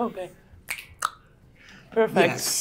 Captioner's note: fingers click